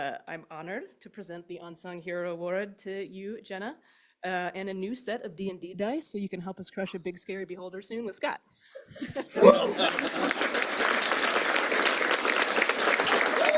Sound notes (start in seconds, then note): 8.7 laughter; 9.4 applause